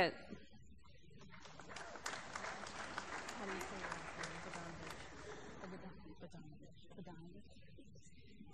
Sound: applause

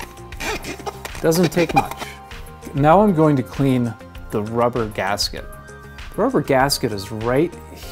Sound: squeaky cleaning sound

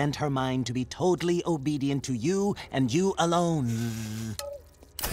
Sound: buzzing

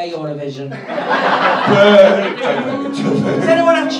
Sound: crowd laughs and boos

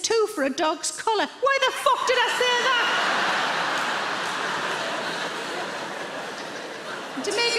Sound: audience laughs

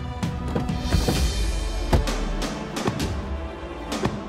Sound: car doors opening and closing

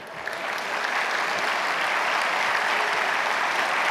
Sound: audience applauds

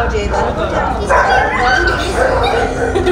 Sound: dogs bark

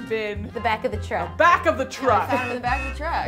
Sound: truck honks

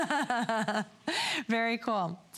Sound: laughter

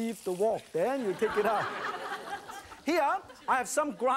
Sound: laughter; crowd

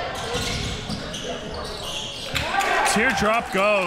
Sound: sneakers squeaking

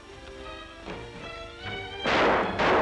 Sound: gunshots

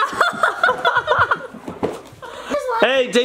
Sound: parents laughing

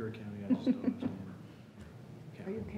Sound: laughing

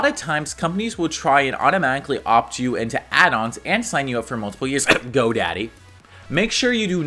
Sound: cough

